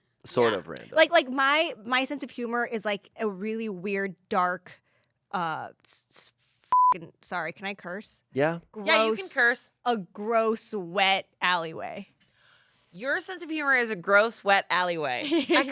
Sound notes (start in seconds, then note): 6.7 beep